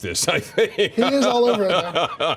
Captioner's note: laughs